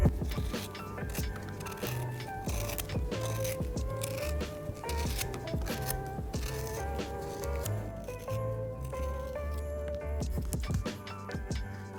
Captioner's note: crunchy cutting sounds